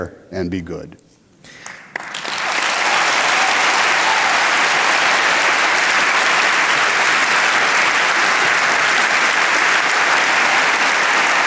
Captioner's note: applause